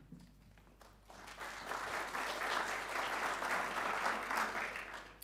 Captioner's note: audience clapping